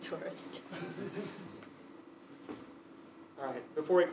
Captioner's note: laugh